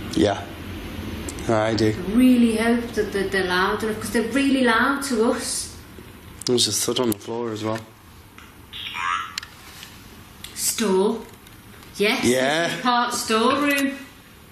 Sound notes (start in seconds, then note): 8.9 Ovilus buzzes